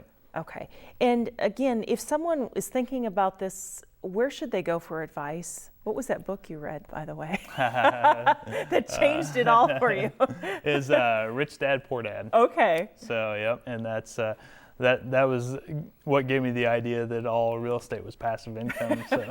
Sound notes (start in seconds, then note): 7.4 laughing